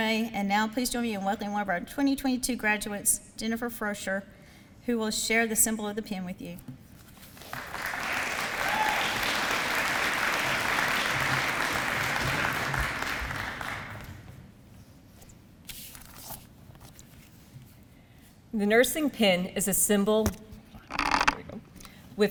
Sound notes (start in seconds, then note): 7.5 audience applause